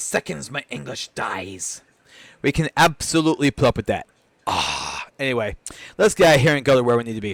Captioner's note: groan